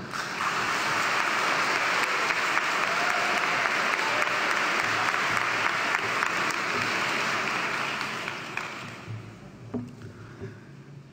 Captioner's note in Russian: Аплодисменты